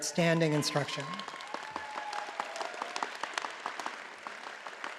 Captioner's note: audience applauding